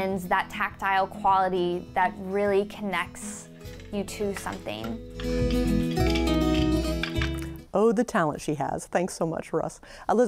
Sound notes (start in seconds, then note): 5.1 loom rattles